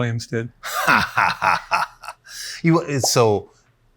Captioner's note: laughs